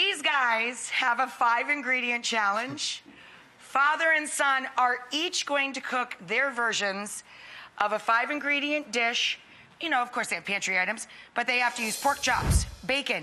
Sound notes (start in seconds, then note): none